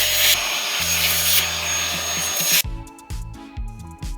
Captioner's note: drill whirring